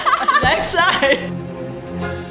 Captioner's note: weeps balletically